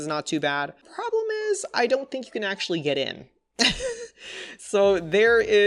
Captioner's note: laughs